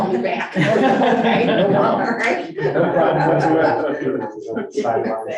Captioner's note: board members chuckling